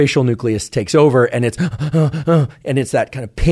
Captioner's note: inhales rapidly